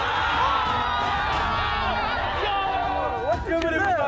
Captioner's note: group yells